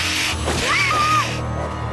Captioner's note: scream